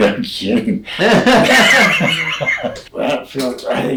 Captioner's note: both laughing